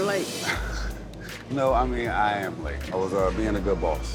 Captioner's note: chuckles